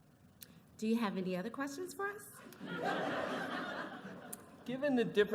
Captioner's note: laughter